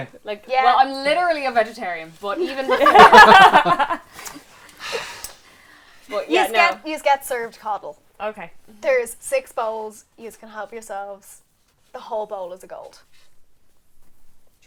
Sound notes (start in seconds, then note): 2.6 laughter